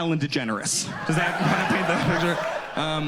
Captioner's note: audience laughs